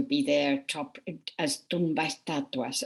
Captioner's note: speaking foreign language